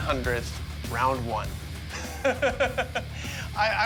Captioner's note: laughs